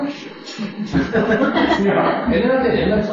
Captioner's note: laughter